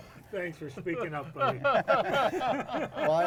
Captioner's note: group laughs